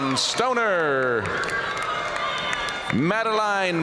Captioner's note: audience cheering and applauding